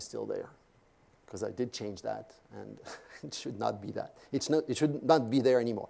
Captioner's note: laugh